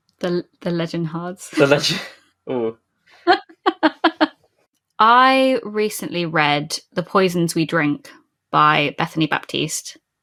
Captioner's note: laughing; laughs